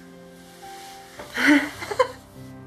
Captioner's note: giggling